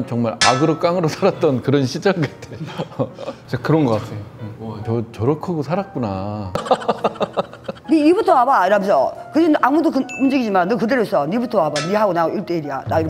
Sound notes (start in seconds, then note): 6.6 just laughing